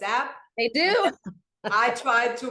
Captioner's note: laughs